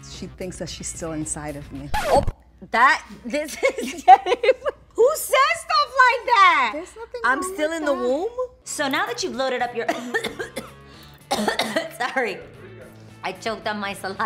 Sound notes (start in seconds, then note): 1.9 record scratches; 3.4 laughing; 11.2 chokes